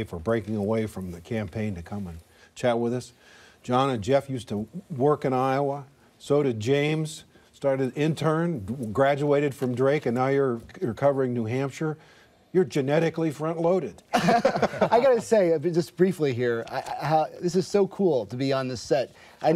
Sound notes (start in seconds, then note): 14.1 laughter